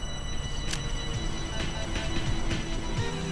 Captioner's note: snaps photo; intense eerie music